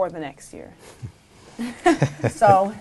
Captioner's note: group laughing